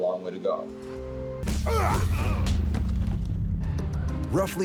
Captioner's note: fighting grunts